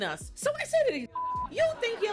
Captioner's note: beep